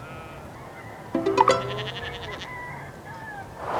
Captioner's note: notification